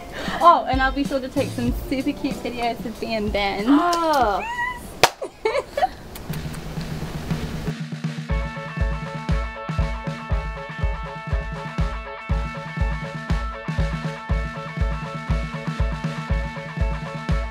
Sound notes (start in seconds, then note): 3.6 gasps; 5.0 clap, laughter